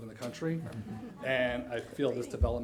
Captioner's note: chuckling